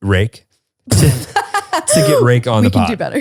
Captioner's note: laughs